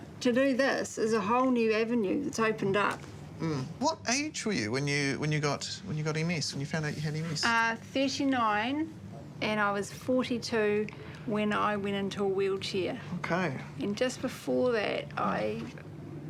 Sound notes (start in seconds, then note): none